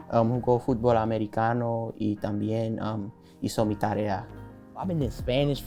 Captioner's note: speaking in Spanish